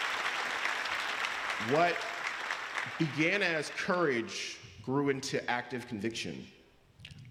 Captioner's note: applause